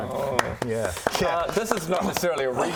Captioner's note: pity applause